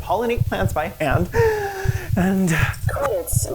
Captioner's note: deep breath